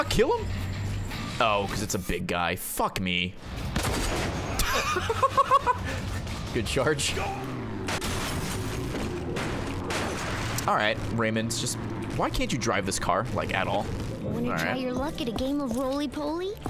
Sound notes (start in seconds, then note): 4.6 laughs